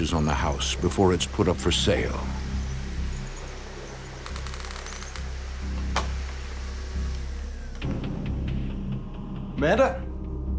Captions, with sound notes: before it's put up for sale. (floorboards creaking) - Amanda?